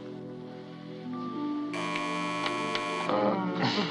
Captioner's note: buzzing; moaning, giggling